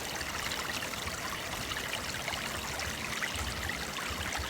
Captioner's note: water trickling